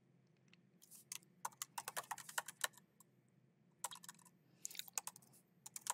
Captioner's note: keyboard clacking continues